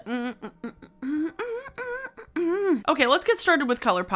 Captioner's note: humming